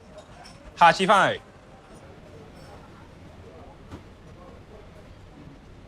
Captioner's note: speaks in foreign language